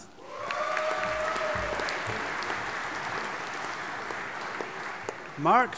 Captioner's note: audience applauding and cheering